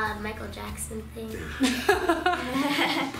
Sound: laughing

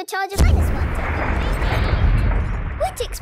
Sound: distant explosion

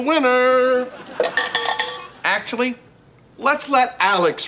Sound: ringing

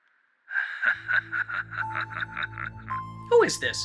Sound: laughter

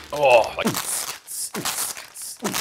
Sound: beatboxing

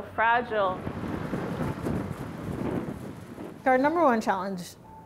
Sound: wind howling

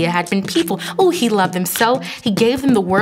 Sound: humming beatboxing

